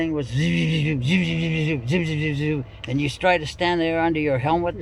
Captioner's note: mimics buzzing